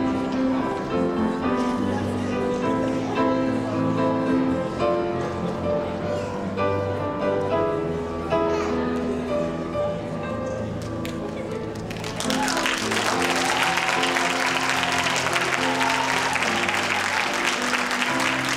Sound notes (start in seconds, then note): 11.9 cheering